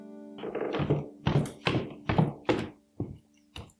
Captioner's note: footsteps on stairs